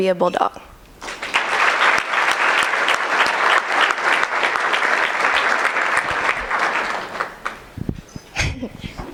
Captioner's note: applause